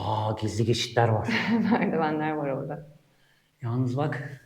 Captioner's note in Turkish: kahkaha